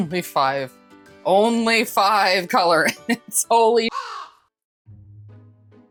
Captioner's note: caw